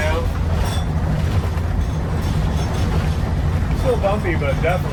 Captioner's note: metal rattling